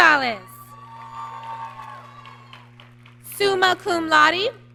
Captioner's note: applause